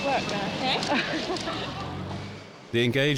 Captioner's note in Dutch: lachen